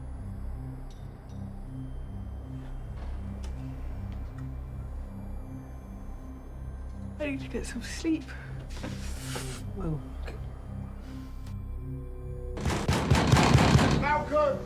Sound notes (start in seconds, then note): 6.8 yawns; 12.6 Sonny pounding on door